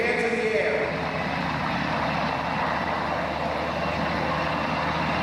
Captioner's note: helicopter whirring